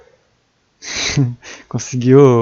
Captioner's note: laugh